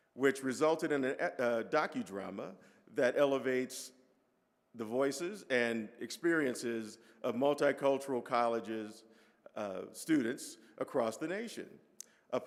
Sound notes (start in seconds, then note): none